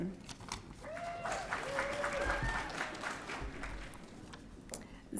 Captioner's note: audience cheering